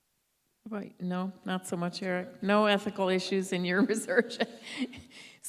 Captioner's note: laugh